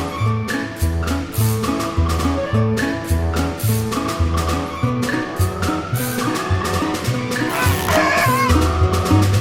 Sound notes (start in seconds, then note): 0.0 whimsical children's music; 7.4 chicken squawking; 8.6 whimsical children's music